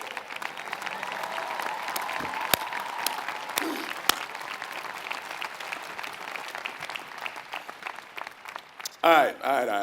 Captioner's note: applause